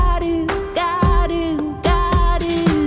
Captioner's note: none